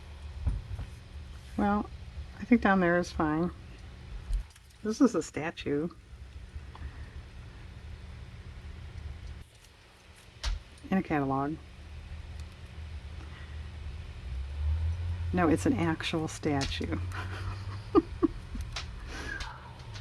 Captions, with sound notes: well I think down there is fine this is a statue... in a catalog no it's an actual statue (laughs)